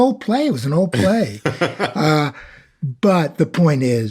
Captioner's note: laughing